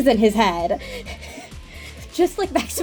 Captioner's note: giggles